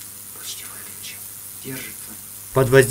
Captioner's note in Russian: шёпотом